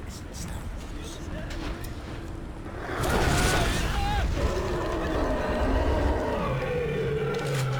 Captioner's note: roaring